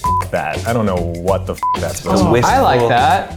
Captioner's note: beep